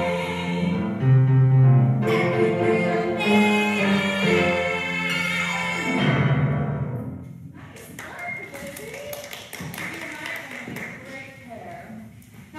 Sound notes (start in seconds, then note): 0.0 punchy piano riff; 5.1 piano downward slide; 7.8 applause